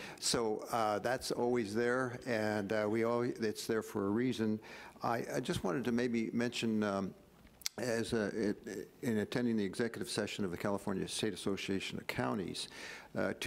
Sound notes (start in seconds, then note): none